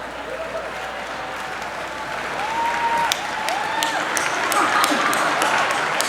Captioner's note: applause; cheering